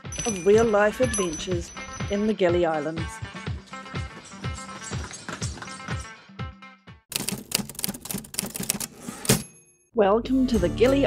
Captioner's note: typewriter clacking